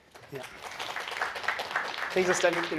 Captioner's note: applause